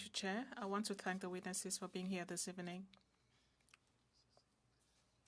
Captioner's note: speaking french